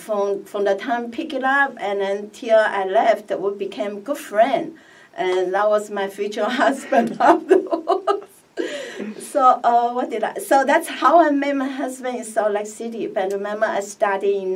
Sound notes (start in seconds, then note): 6.8 laughs